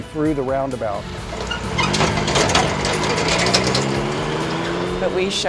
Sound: traffic passing

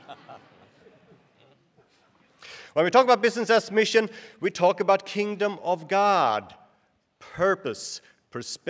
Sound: laughter

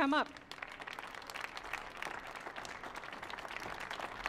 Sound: audience applauding

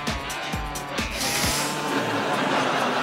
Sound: sniffing

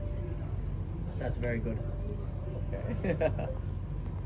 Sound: laughters

